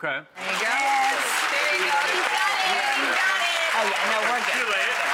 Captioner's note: applause